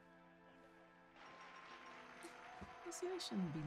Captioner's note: audience applauds